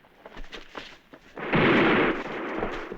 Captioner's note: gunshot